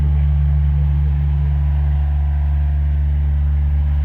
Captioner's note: machine rumbling